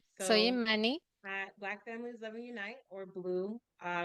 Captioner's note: hablando inglés